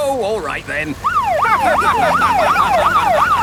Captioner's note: siren wailing; laughing